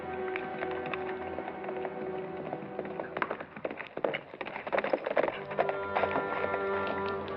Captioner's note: suspenseful music; horse galloping